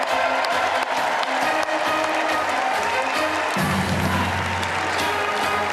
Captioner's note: cheers and applause